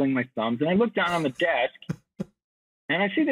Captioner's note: chuckles